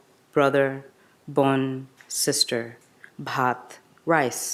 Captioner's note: speaks in a foreign language